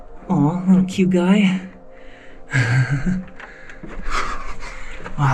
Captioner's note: soft music; laughing